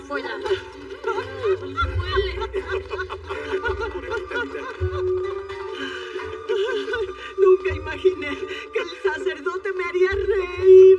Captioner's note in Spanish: Ríe